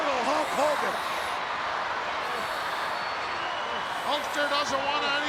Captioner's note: crowd cheering